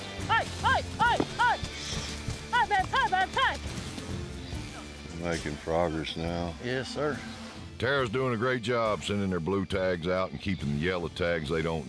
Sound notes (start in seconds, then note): 3.3 continues shouting